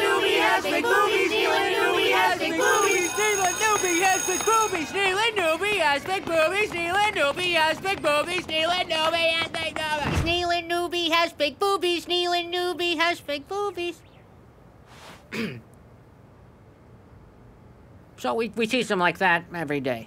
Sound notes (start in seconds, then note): 15.2 clearing throat